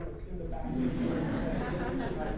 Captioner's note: laughing